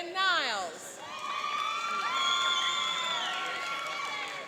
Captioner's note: cheering and applauding